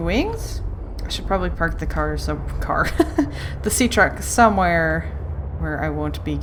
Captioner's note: laughs